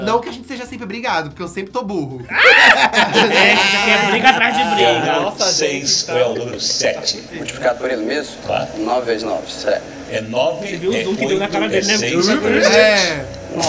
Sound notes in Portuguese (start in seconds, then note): 2.4 risos